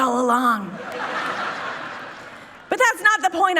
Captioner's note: people laughing